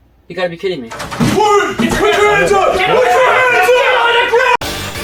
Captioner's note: police yelling